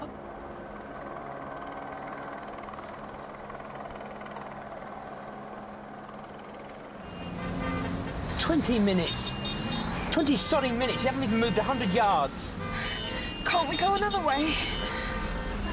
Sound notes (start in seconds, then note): 0.3 helicopter whirring in background; 7.8 cars honking